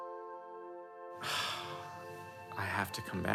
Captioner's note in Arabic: يتنهد